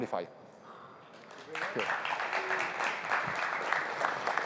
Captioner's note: applause